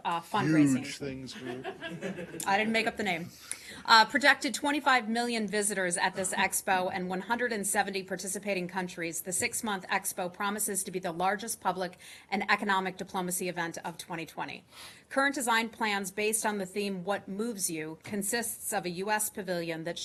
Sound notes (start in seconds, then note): 1.3 laughter